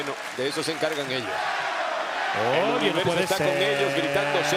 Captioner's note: applause